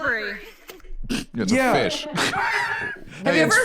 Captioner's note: laughs